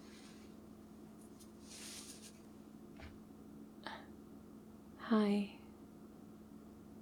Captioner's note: shuffles closer